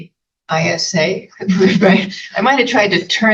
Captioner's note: laughing